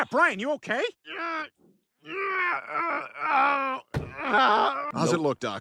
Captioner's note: Brian groans in pain